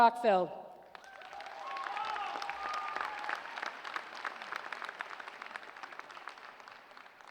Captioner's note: applause